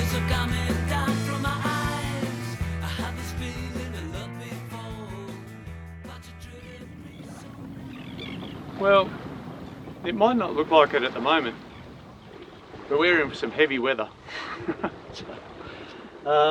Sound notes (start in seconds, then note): 14.4 laughs